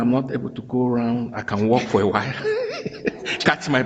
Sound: chuckles

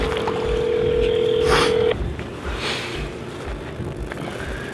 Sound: phone ringing

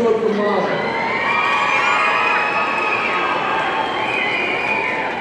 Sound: audience cheering

